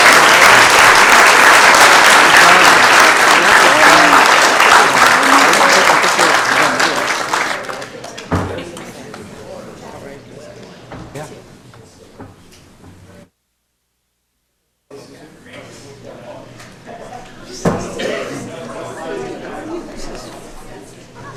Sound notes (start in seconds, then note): 6.9 applause